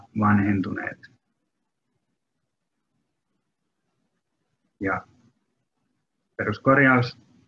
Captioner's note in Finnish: hiljaisuus